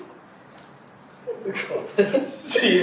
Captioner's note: DONG laughs